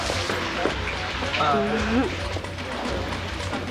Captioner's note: laughs